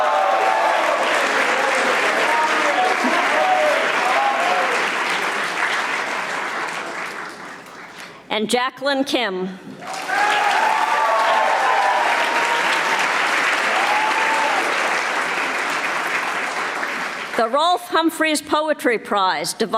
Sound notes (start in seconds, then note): 0.0 audience applauding; 11.7 audience applauding